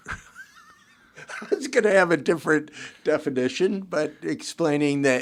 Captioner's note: chuckles